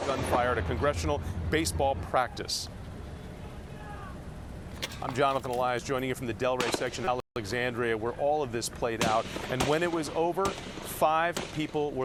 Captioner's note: gunshots